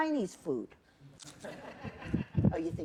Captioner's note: laughter